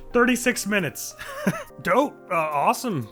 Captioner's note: laugh of disbelief